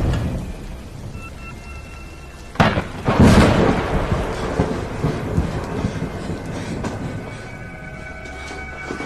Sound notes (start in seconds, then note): 2.4 thunder booms